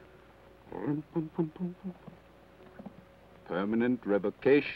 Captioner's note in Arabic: يدندن بلحن جميل